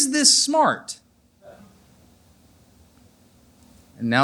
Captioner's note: silence